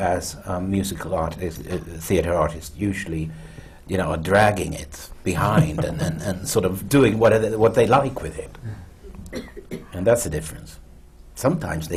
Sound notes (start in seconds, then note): 5.5 laughter